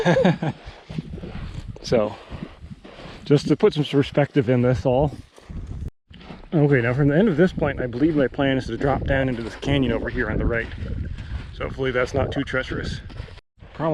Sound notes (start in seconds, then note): 0.0 laughs; 5.9 footsteps thumping